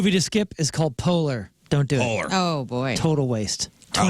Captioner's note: none